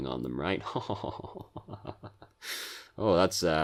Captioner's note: clever laughter